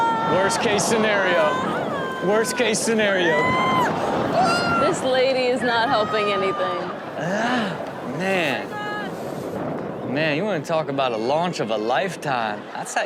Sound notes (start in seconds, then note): 0.0 screaming in background; 6.7 audience laughs